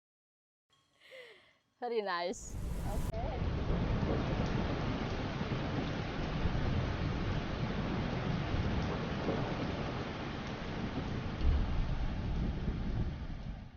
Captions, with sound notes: Very nice. Okay. (rain pours)